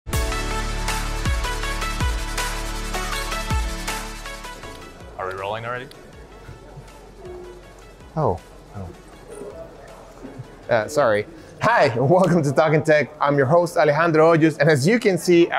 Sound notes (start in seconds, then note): 0.0 bright upbeat music; 8.7 chuckles